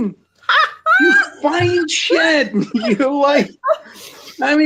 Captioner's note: laughs